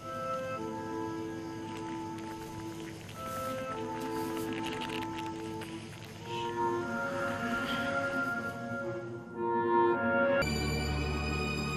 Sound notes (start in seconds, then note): 4.0 rustling; 10.4 tense music playing